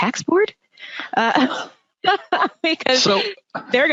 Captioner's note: laughing